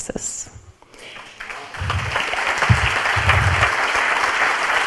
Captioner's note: audience applauds